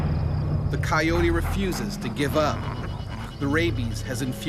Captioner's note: voiceover